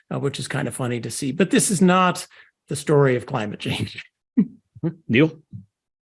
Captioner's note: laugh